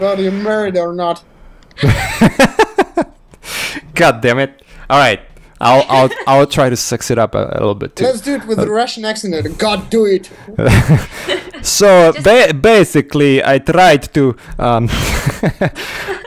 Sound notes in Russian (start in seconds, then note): 10.6 с русским акцентом